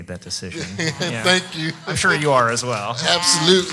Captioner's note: laughs